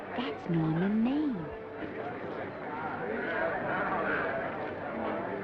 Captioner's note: attendees chattering